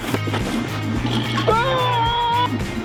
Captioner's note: roaring